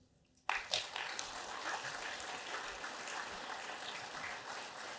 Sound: audience applauds

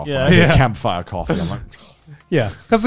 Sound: sighs

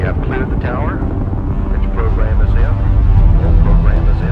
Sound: mission audio

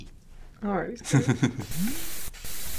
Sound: chuckles; static

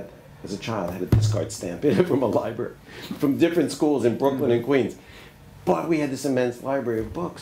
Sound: laughs

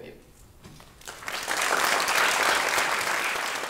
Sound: applause

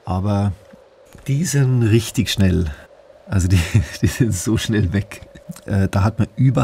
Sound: he laughs

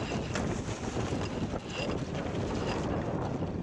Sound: winch grinding

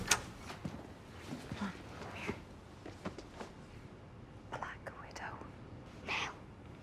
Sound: whispers; whispers back

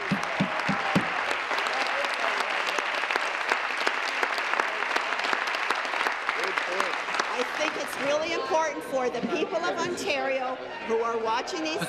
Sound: applause

